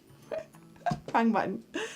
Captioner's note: chuckles